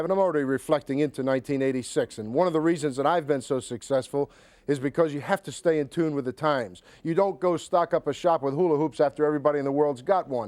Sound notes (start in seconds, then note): none